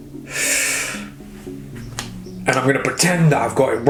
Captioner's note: sighing